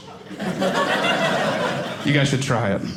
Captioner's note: audience laughing